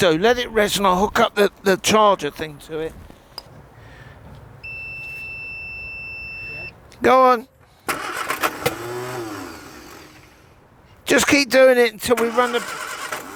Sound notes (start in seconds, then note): 4.6 electronic beeping; 7.5 engine rumbling